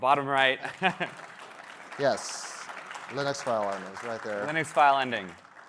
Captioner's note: applause